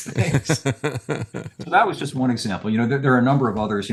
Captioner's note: laughing